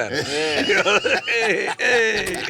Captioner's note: loud laughing